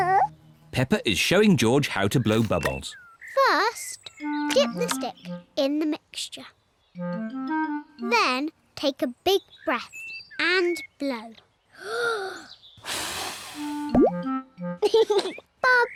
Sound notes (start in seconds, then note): 11.2 takes big breath and blows; 14.8 laughs